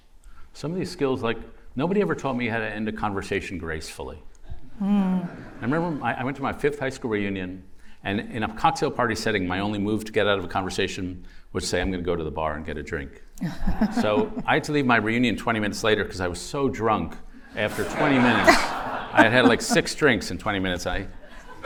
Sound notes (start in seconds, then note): 13.4 laughter